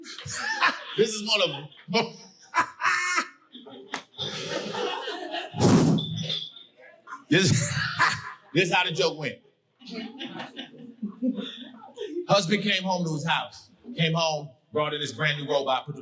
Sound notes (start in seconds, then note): 0.0 audience laughing; 0.1 laughing; 2.5 hysterically laughing; 5.6 exhaling; 7.0 laughs